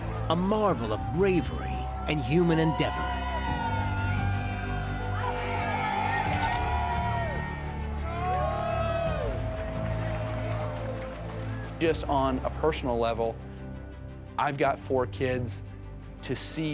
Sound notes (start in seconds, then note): 5.3 cheering